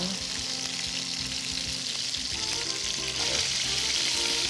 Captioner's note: sizzling